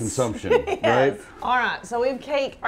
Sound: laughs

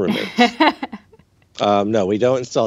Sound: laughs

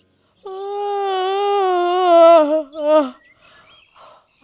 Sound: yawning

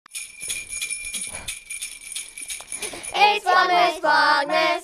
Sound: christmas bells ringing

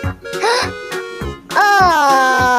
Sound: gasps

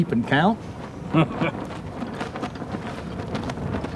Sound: laughs

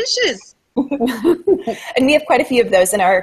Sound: laughter

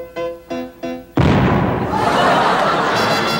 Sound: explosion booming; audience laughing

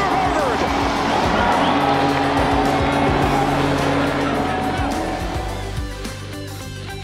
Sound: cheers

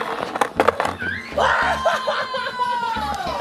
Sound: hollering

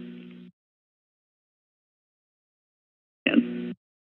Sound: silence

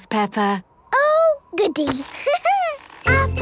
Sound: laughing

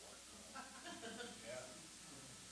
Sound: audience laughing

